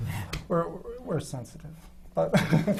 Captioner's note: laughs